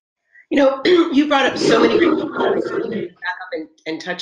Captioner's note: mic interference